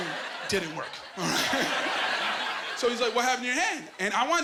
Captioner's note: laughing